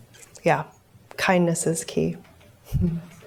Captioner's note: chuckles